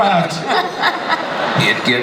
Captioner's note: panel laughs